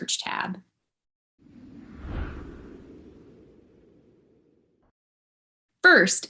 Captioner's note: light Whoosh